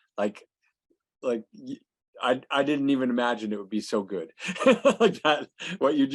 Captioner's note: laughs